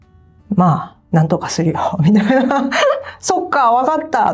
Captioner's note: laughs